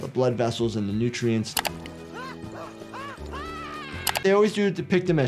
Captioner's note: Disco Bear screams